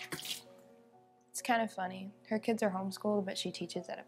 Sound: water running

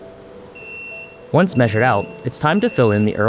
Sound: machine beeping

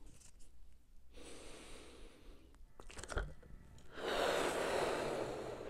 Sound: deeply inhales; deeply exhales

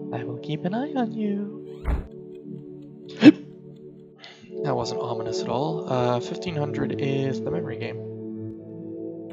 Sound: hic

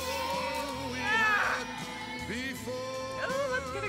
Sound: woman grunting

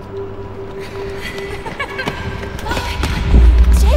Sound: emma joyfully giggles

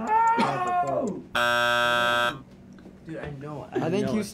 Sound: beeping

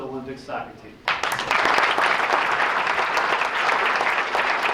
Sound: applause

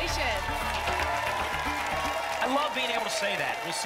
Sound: applause and cheering

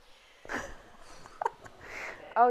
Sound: sighs

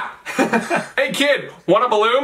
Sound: laughing

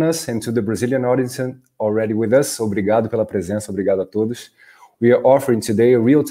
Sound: speaking in Portuguese

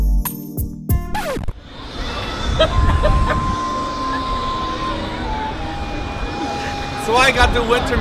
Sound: sexy Food Music; record scratches; laughs

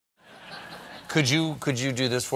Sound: audience laughing

